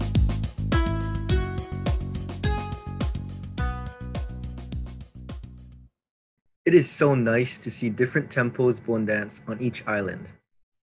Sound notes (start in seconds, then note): none